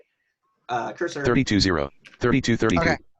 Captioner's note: computer Voice